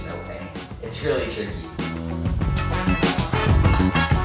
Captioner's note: zipping